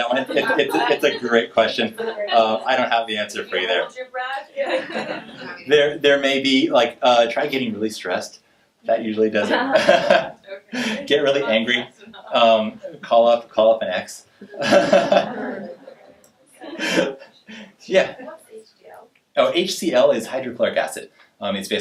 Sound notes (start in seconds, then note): 4.5 laughing